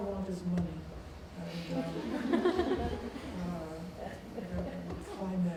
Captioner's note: laughing